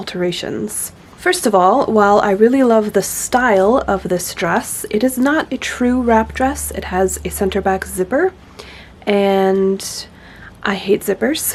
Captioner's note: laughs